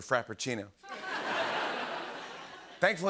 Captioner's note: laughter